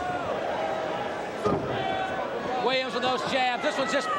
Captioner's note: crowd chatter